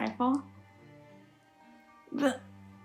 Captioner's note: laughs